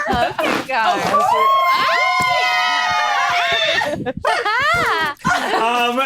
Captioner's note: all cheering; fan flapping